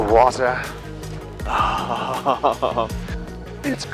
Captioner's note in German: Lacht